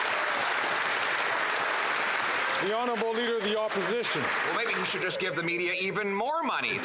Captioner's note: some Applause